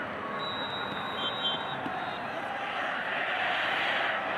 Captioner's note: referee blows whistle